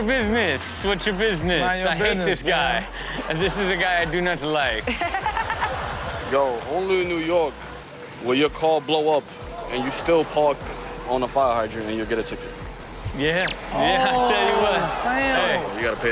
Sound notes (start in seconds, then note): 4.8 Chanel and audience laughs